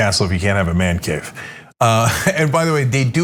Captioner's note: laugh